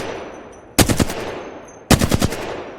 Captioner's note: sound of shooting